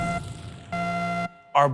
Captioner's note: buzzer